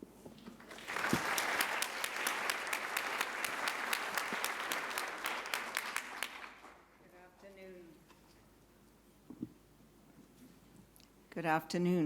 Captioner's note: applause